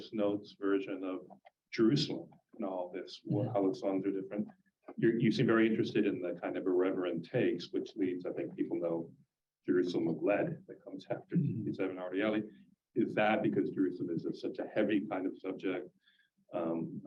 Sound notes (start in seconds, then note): 12.3 Hebrew